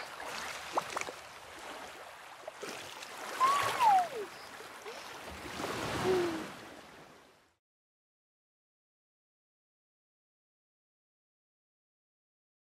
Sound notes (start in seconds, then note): 3.4 Moana exclaims